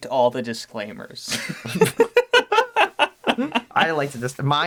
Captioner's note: both laugh in legalese